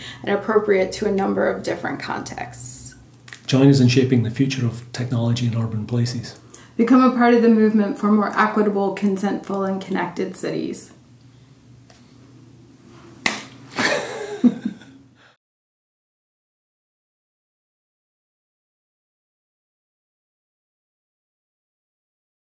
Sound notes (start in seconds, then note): 13.2 hands clapping; 13.8 laughing